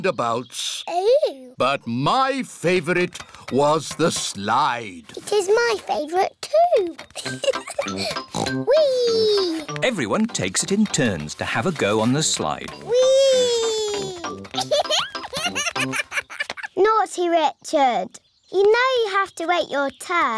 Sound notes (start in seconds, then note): 7.1 laughs; 7.9 oinks; 14.5 laughs